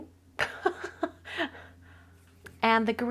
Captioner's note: chuckles